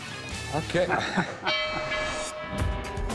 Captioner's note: laughs